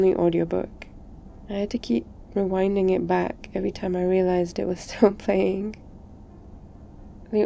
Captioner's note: laughs